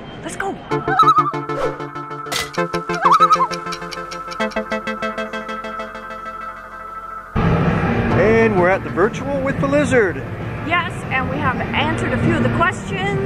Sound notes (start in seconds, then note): 0.8 loon call; 2.8 loon call